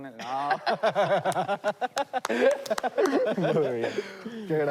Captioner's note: laughter